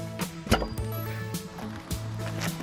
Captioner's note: popping of the drive shaft